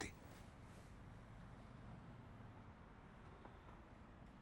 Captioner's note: none